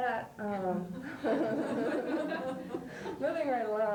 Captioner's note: laughter